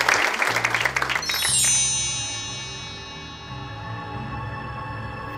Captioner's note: audience applause; gentle chime